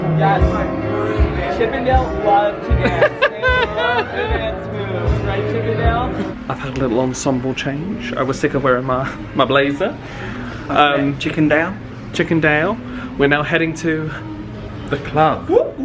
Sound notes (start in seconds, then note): 2.8 laughs